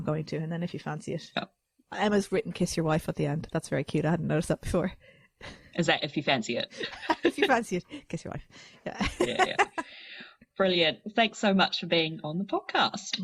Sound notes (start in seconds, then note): 9.0 laughs